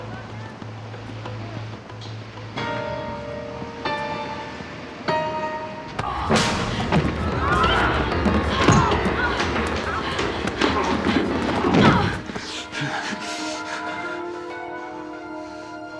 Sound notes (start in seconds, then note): 7.4 grunts; 11.8 grunts; 13.4 panting